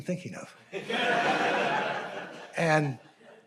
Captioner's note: audience laughing